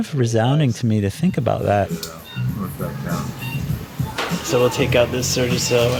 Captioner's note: heart monitor beeping